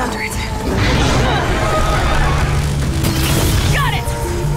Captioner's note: screeching